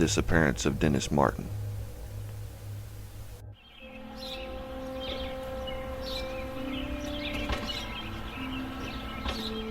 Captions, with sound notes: the disappearance of Dennis Martin. (slow instrumental music) (birds chirping)